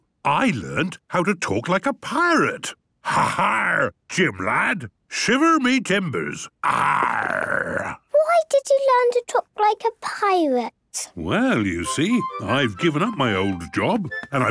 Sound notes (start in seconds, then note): 3.1 menacing voice; 6.6 he growls